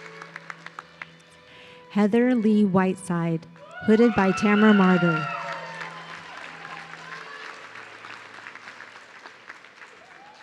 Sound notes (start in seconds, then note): 3.6 audience cheering